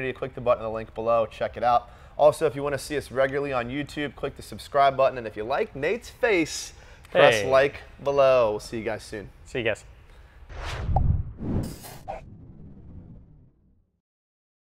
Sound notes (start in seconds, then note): 10.4 air whooshing